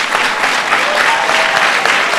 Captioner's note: applause